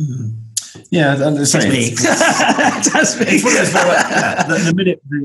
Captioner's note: laughs